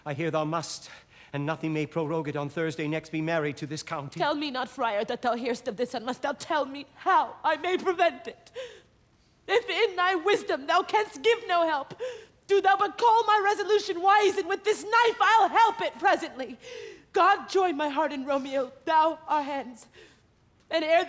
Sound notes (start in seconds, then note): none